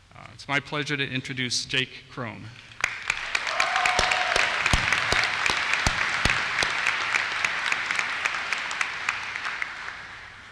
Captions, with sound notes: It's my pleasure to introduce Jake Crome. (applause)